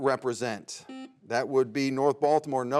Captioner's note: buzzer beeps